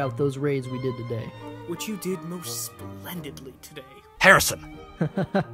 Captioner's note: Sarcastic